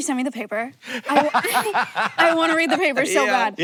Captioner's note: Hank laughs